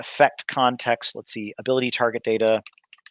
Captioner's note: typing